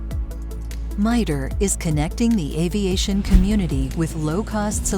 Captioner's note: voiceover